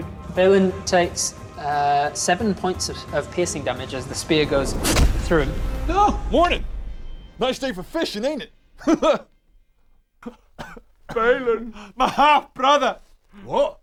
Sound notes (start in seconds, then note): 11.2 crying